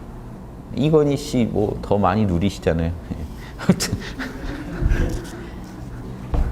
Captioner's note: laughters